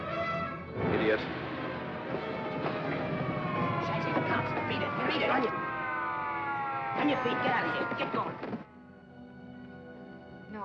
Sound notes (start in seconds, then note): 0.0 commotion & chaos; 0.0 suspenseful music; 2.0 sirens wailing; 5.7 sirens wailing; 8.6 dramatic sentimental music